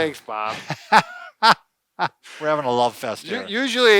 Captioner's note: laughs